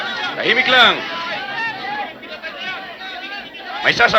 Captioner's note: people clamoring; speaking in foreign language; people clamoring; speaking in foreign language